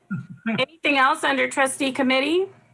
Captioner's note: laughs